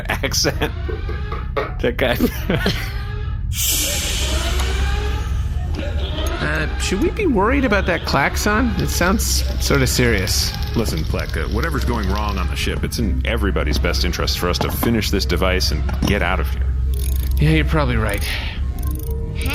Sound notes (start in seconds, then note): 3.5 transition noise